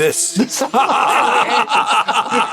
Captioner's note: laughter